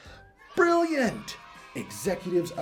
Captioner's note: children cheering